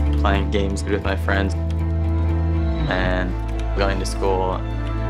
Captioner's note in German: none